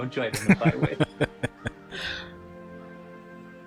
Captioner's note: laughing